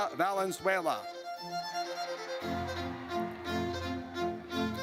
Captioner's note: audience cheers